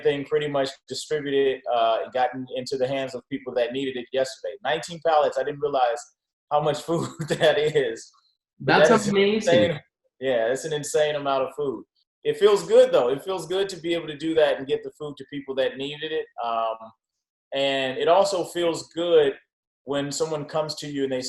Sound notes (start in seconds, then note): 6.8 laughs